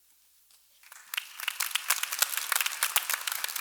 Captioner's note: applause